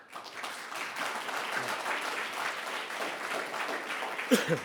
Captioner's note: audience applauding